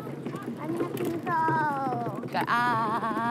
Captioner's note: chatters